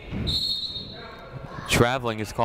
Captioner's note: whistle blows